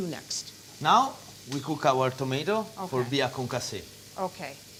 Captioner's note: speaking italian